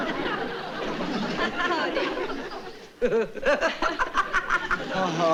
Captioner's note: laughter